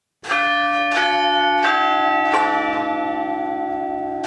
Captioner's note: bells ringing